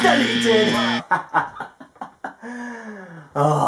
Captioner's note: laughter